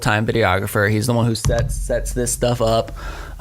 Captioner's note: microphone thudding